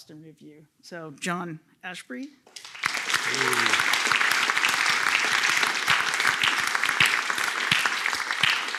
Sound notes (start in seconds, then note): 2.5 applause